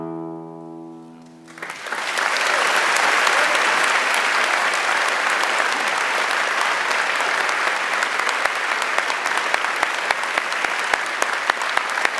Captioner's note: applause